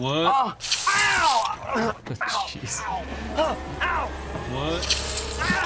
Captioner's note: groaning